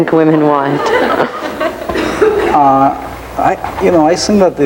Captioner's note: audience laughing